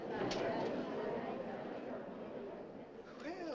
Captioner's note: crowd murmurs